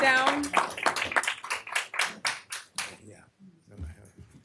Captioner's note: applause